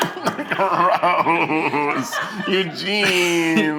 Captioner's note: laughing